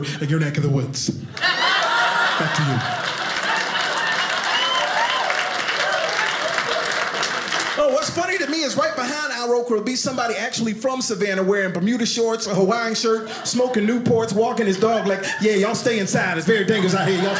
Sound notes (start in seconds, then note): 3.0 audience laughing; 4.3 audience applauding